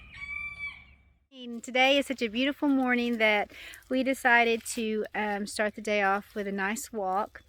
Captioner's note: rooster crow